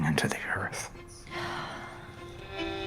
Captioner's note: sigh